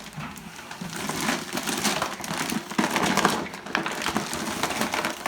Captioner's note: flour bag pack crunches